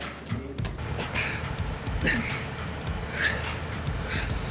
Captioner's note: panting heavily